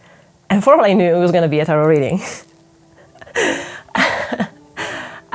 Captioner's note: laughs